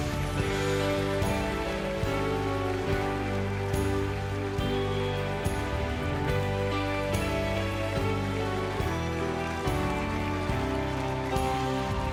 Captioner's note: applause